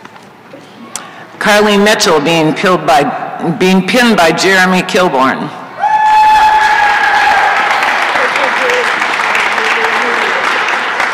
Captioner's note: applause and cheering